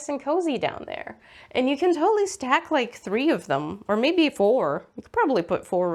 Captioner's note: none